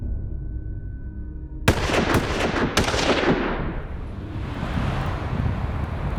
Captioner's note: gunshots